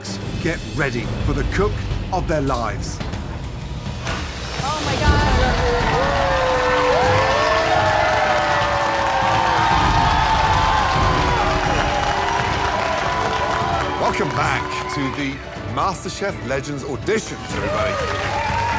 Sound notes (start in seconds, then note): 6.1 cheering